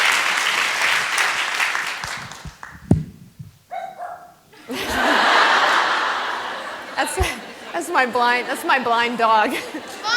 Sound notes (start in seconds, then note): 3.7 dog barking; 4.5 laughter